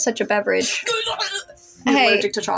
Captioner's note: sip; chuckle